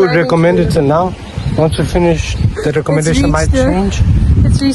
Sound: laughs

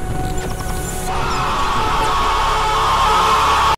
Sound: liberal autistic screeching intensifies

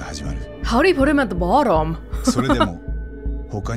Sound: chuckles

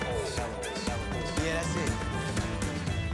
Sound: echoing

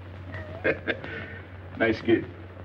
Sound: laughing

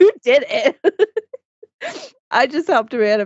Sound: laughs

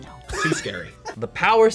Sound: React laughs

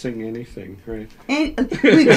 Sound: laughs

